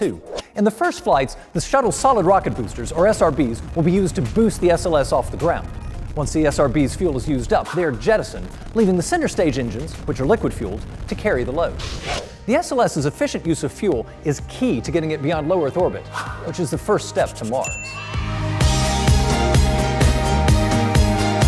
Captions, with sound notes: In the first flights, the Shuttle’s solid rocket boosters, or SRBs, will be used to boost the SLS off the ground. Once the SRB’s fuel is used up, they are jettisoned, leaving the center stage engines, which are liquid-fueled, to carry the load. The SLS’s efficient use of fuel is key to getting it beyond low-Earth orbit, which is the first step to Mars. [cheers] [fast paced music]